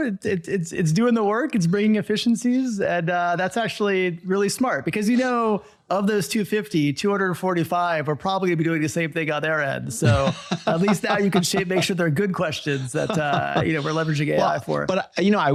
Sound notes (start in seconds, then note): 9.9 guy laughing